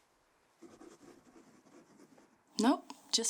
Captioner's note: pen scratching